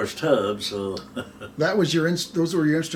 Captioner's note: chuckles